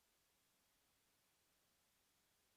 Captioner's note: none